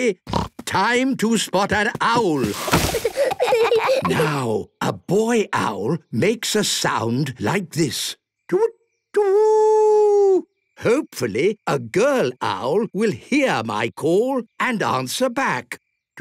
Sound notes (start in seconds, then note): 0.3 snorting; 2.3 kids giggling